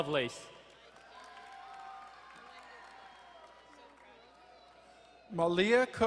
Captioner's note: crowd cheering and applauding